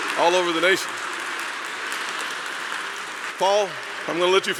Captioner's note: applause